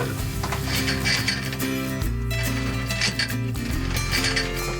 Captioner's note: anchor chain rattling